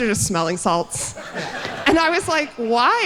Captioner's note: all laughing